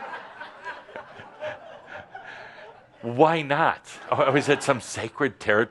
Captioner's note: laughter